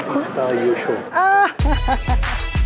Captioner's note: laughs